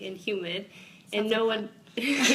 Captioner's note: both laugh